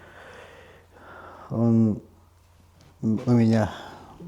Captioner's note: sighs